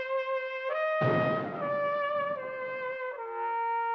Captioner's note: cannon fires